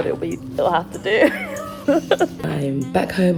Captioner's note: laughs